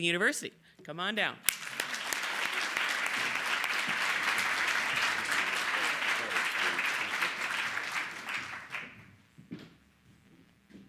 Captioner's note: applause